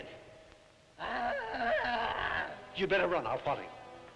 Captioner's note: Popoca moaning